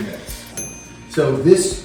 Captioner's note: oven dings